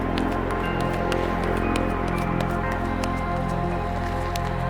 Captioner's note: foot steps on asphalt